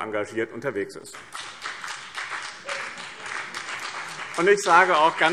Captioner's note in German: Beifall BÜNDNIS 90/DIE GRÜNEN und vereinzelt CDU